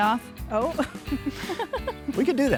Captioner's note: laughing